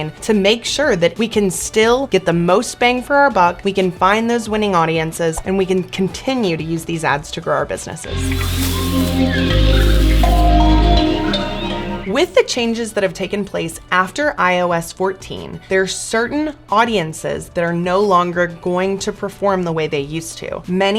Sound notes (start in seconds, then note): 8.0 mysterious music; 8.2 birds chirping